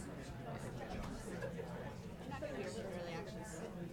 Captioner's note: people chattering